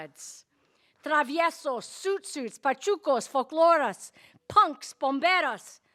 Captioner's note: speaking in Spanish